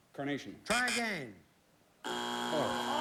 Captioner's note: buzz buzz; buzzer